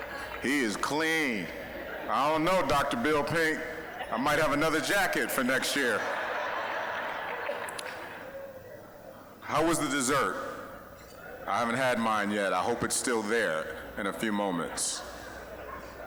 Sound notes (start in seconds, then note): 6.2 audience laughing